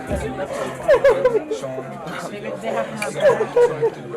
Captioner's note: sobbing